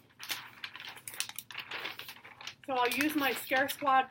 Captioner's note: paper crinkles